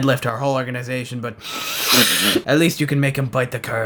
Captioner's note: bigass sniff